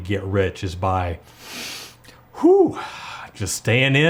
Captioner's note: dramatic breathing